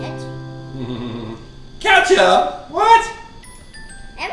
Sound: voiceover

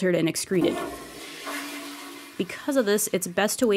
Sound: toilet flush

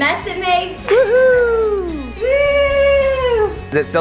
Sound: cheering

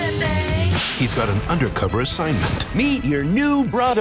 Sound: whack

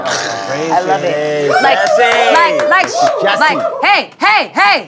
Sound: everyone clapping

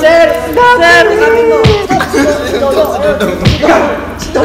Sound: laughing

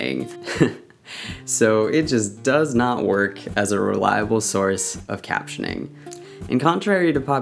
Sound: laughs

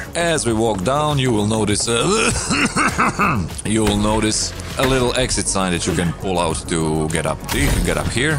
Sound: choking

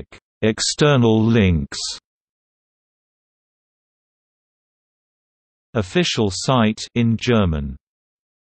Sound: in German

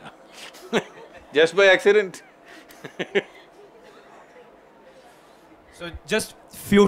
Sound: few Laugh; laughs

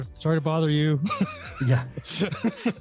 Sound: laughs

